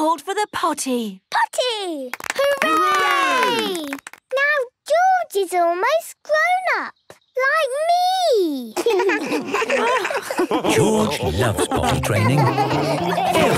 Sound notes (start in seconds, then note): 2.1 cheering, clapping; 8.7 laughs